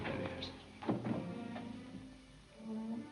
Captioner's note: la puerta hace clic; música tensa